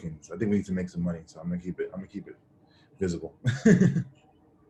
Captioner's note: laughs